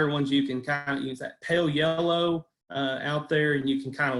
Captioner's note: audio is choppy